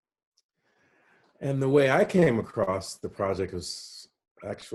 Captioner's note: none